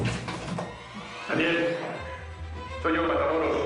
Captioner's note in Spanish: Ruido al abrir puerta